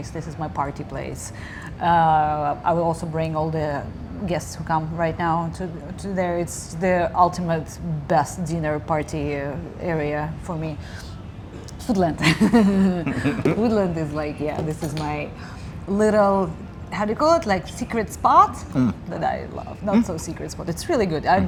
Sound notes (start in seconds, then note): 12.3 laughing